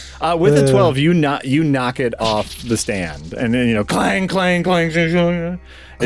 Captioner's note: boing noises